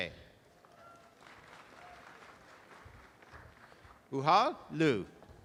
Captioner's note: audience applause